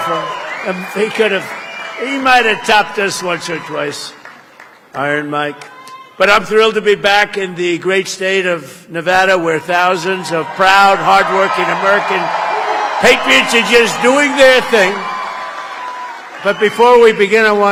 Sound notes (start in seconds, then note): 9.4 applause